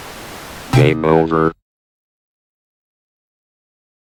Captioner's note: automated Voice